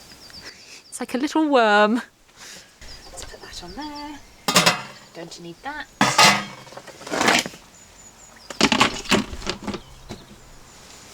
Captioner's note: lids clanging onto pot